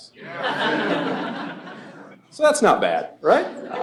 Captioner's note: laughter